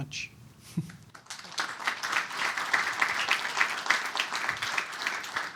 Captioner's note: applause